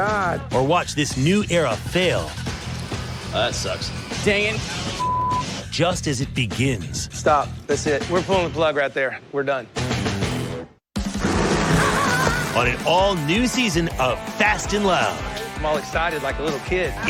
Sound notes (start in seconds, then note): 11.7 laughs